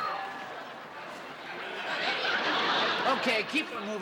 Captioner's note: laughter